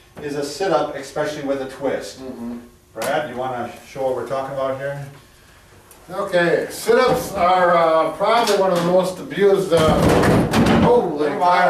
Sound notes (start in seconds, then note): 9.8 several loud thuds